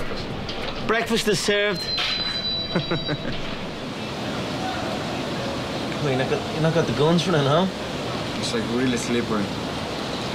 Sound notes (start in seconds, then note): 2.5 chuckling